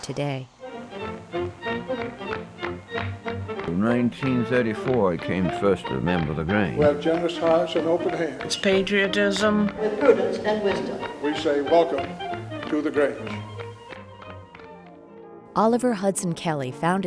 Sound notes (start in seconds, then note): 1.1 heels clack; 1.1 upbeat 30s music